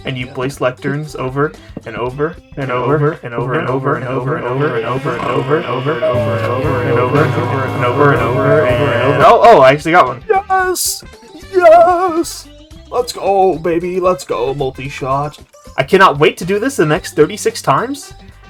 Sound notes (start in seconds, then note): 4.4 snoring